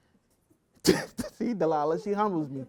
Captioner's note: laughs